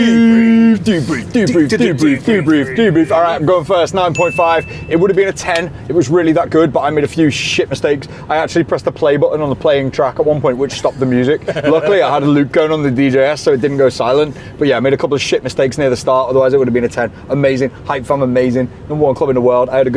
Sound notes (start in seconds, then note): 4.0 bell dinging; 10.9 man giggling